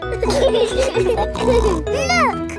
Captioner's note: laughing